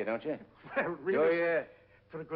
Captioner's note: chuckles